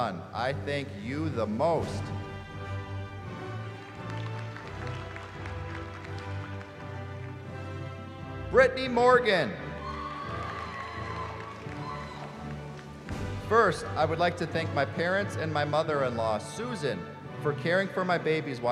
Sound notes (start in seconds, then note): 3.1 applause; 9.5 cheering